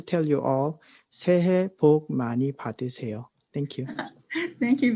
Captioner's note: speaks in Korean